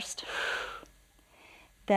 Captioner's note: exhales